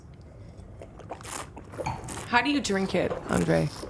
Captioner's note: slurping and swishing